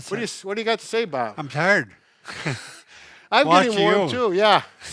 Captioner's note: laughs